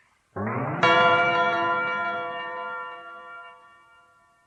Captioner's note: SFX: bell ringing